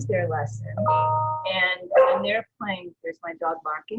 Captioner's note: dog barks